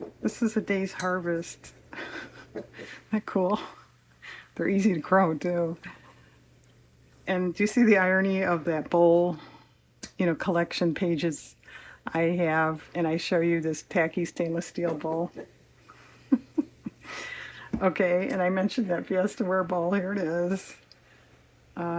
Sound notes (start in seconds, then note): 16.2 laughs